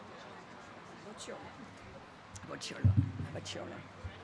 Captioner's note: chatter